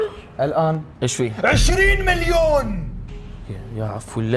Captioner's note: shouts